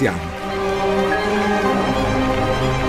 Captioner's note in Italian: Applauso